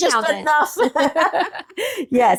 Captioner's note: laughing